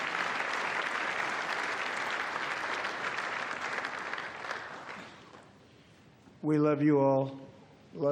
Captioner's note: applause